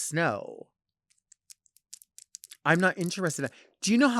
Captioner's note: nails clacking